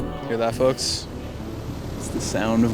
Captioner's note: heat pump rumbling